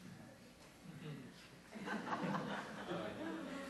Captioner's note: laughter